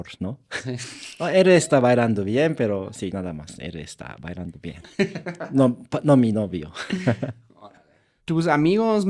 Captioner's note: laughter